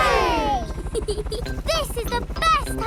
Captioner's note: peppa giggles